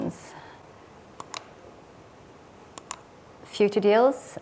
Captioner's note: remote clicking